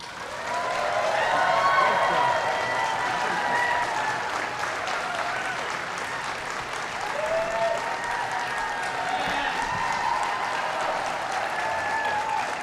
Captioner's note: applause